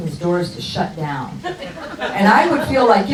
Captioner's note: crowd laughs